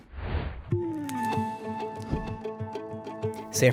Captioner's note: swooping